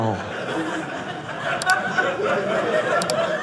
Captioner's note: audience laughing